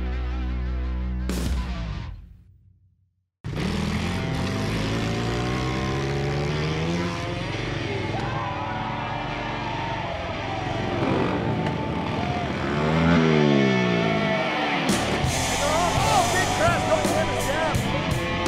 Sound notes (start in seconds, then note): 3.3 motors gunning; 8.3 crowd cheering; 10.2 energizing country music